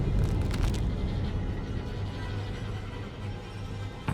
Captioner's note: Bill's knuckles crack